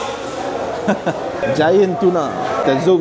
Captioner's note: laugh